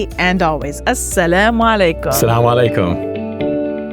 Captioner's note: both speaking non-English language; inspiring music